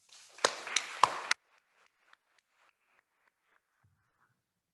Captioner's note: attendees applauding